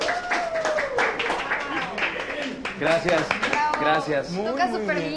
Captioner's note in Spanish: aplausos